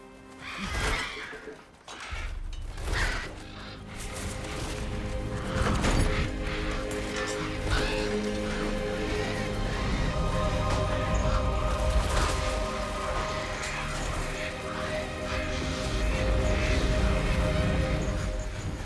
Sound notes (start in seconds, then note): 0.3 caws